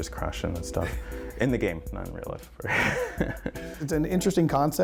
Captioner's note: laughs